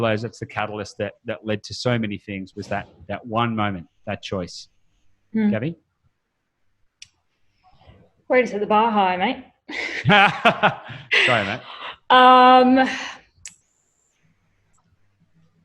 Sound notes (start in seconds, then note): 9.7 both laughing